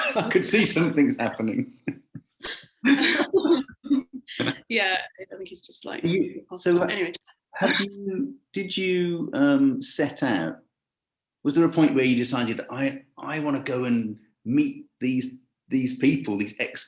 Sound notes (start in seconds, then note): 0.0 laughing; 6.0 voice muffling